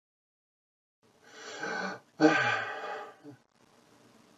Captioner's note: sigh